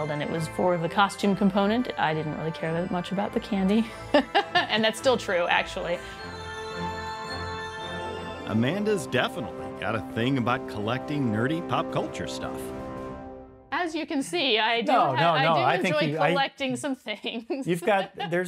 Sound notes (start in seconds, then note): 3.8 laughs; 4.1 chuckles; 6.4 adventurous orchestral music continues; 17.6 laughs